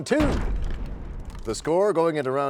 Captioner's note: crashing sound